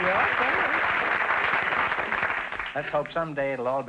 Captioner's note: applause